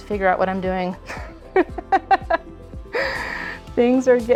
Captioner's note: laughs